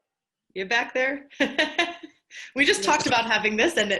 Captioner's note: laughs